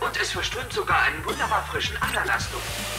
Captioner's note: coughing